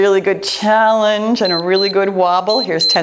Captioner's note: timer beeps